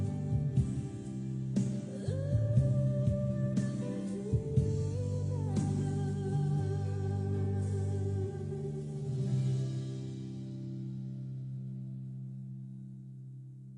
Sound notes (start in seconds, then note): none